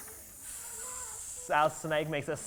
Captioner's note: children make hissing noises